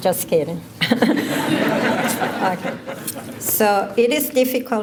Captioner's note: laughter